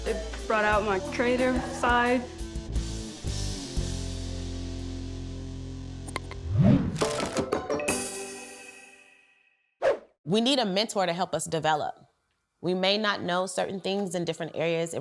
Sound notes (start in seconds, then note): 2.5 upbeat music; 9.7 swoosh